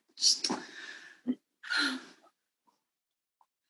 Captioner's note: maybe sighs